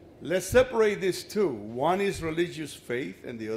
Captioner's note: none